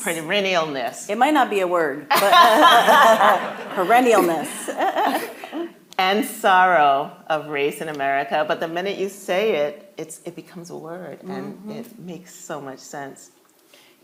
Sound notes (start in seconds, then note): 2.1 all laughing; 2.2 laughing; 5.2 chuckling